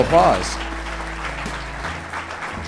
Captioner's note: applause